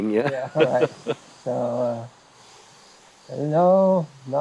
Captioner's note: both laughing